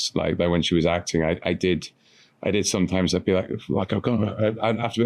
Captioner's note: mutters